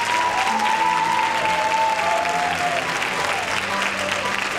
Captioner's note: cheering